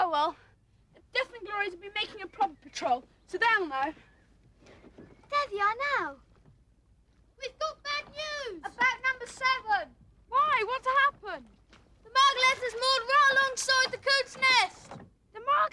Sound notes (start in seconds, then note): none